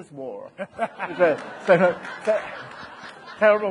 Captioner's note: audience laughing